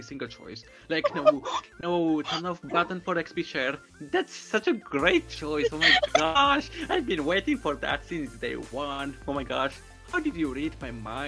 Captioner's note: laughs to cover dogs in background